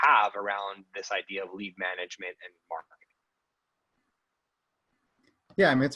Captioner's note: murmurs